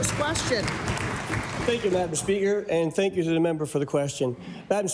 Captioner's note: applause